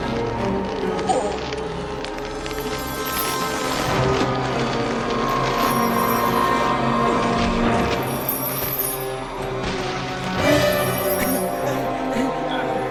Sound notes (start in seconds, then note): 2.4 werewolves howling in distance